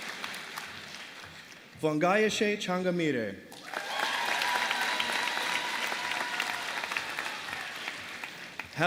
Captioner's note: applause